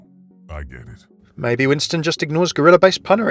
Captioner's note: voiceover